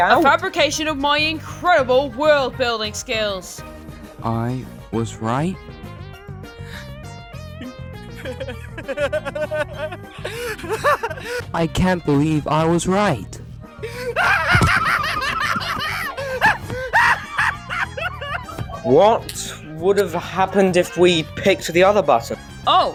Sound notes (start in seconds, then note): 7.6 start laughing manicly; 13.9 laughs manicly